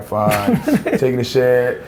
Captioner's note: laughs